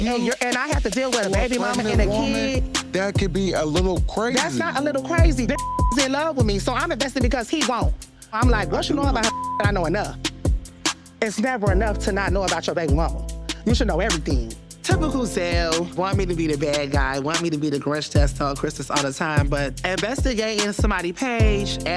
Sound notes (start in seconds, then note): 5.5 beep; 9.2 beep